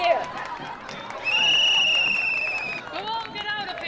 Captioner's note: crowd; sharp whistle